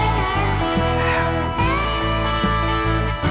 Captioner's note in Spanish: Ríe